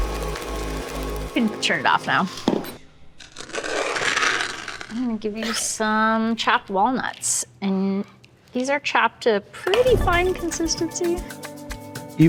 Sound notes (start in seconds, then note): 3.2 walnuts scraping